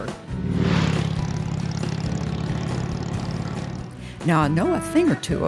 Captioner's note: motorcycle engine revving